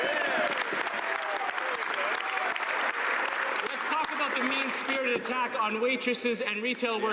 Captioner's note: some Applause